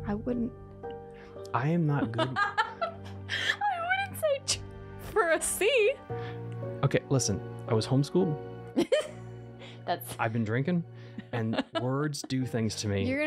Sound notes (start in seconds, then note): 2.2 bursts out laughing; 8.8 laughs